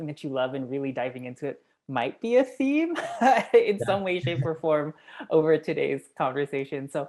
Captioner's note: laugh